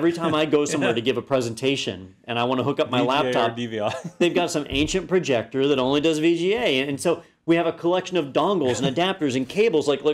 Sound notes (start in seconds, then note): 3.8 laugh